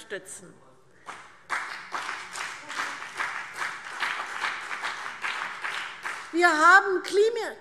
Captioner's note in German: Beifall CDU und BÜNDNIS 90/DIE GRÜNEN